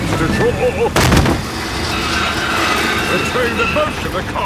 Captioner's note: thud